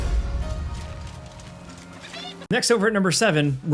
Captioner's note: energy rumbles; footsteps rustle